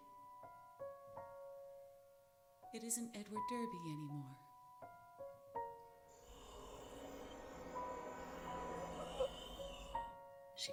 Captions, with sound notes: "It isn't Edward Derby anymore. (gasping)